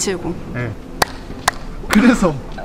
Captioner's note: clap